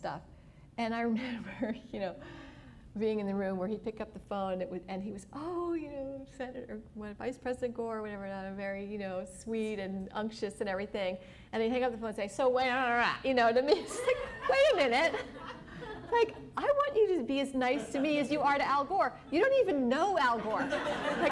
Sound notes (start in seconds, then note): 13.6 impatient tone; 13.7 laughter